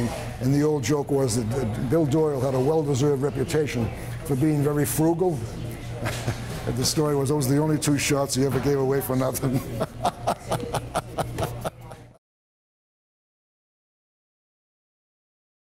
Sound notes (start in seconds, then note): 9.4 laughing